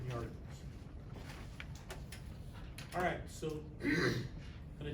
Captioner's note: clears throat